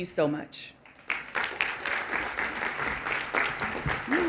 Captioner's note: applause